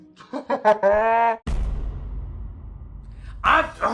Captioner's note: laughs